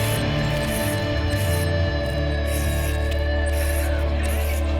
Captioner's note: upbeat music; paint spraying sound